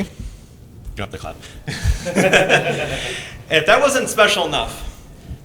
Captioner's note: chuckles